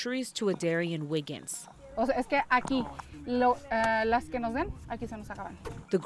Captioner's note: speaking in foreign language